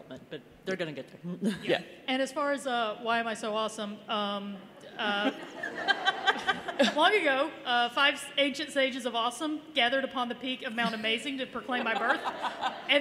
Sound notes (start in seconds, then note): 5.0 laughter